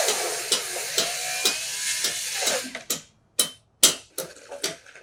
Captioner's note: drill spinning; hammer striking